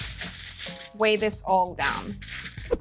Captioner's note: foil crinkling